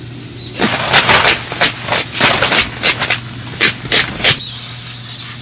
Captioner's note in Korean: 강이 바닥 파는 소리